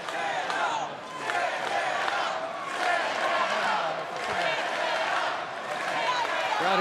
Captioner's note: fans chanting